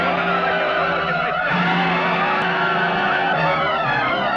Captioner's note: men shouting